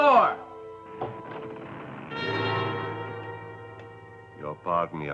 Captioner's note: tense music; door creaking